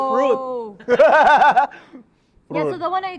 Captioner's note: laughs